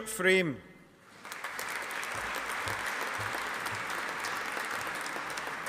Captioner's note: audience applauding